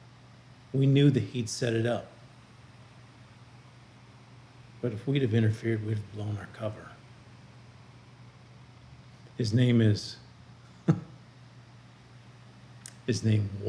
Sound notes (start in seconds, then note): 10.8 laughing